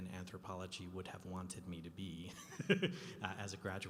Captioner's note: laughing